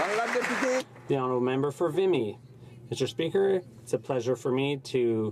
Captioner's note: some Applause